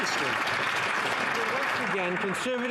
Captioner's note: some Applause